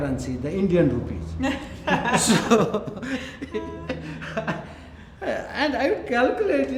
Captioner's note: laughters